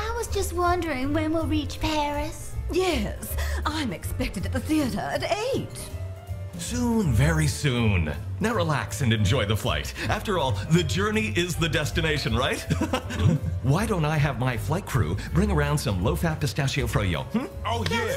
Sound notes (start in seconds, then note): 12.6 chuckling